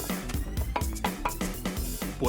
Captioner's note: knocking